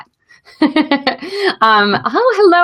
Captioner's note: laughs